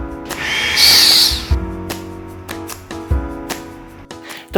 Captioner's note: machine hissing